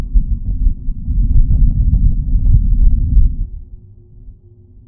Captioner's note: wind howling